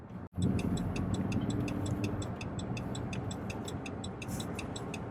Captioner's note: turn signal blinking